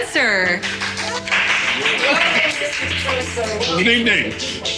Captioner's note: applause